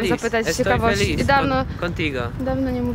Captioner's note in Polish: mówi po hiszpańsku